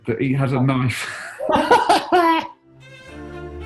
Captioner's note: laughter